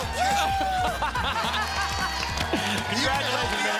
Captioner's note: laugh